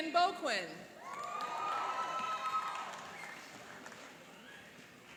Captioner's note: cheering and applauding